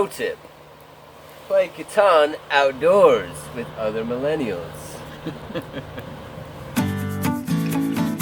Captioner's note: laughter